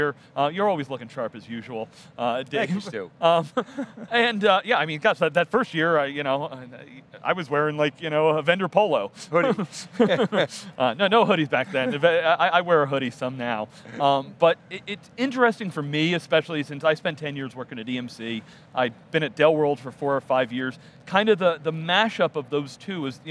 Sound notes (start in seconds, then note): 3.4 laughing; 9.3 laughing